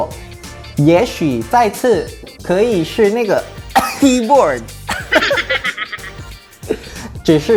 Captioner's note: ahem